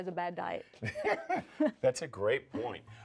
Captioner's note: both laughing